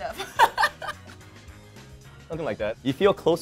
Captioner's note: laughs